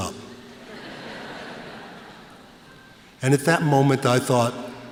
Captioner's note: laughter